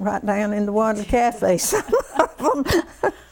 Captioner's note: laughter